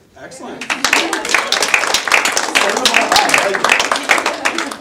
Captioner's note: audience applause